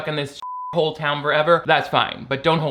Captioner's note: beep